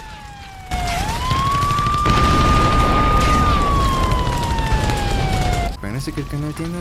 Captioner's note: end of the world sounds